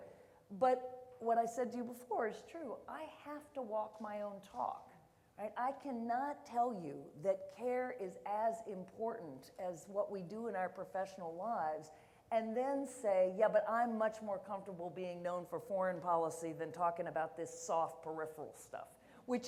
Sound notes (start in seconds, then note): none